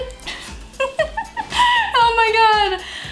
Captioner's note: laughs